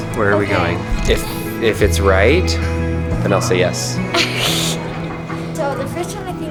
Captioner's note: laughs